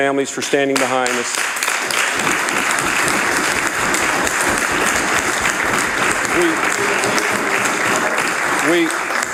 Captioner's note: applause